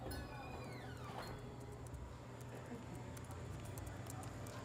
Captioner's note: bells clinking; door creaking